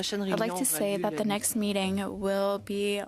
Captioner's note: speaking French